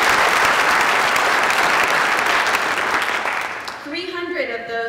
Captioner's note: applause